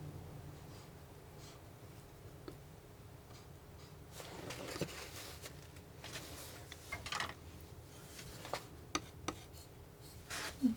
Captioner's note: tapping on paper